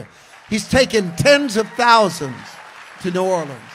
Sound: congregation applauds; congregation cheers

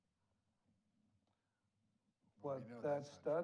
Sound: none

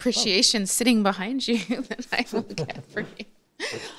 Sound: laughing

